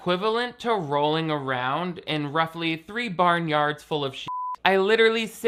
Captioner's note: beep